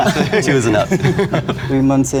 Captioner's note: group laughing